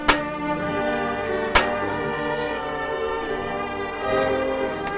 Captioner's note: metal clanking